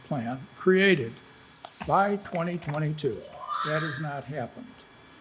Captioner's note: paper rustles